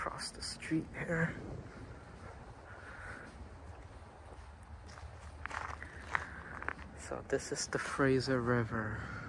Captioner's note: walking on gravel